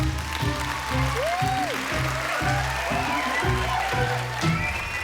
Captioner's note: cheering, applause